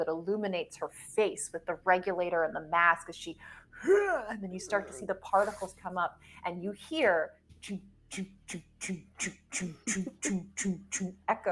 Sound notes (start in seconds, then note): 4.5 mimics grunting; 8.4 mimics winch thudding